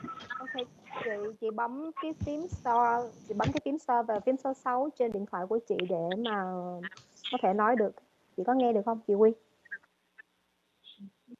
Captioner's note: speaks non-English language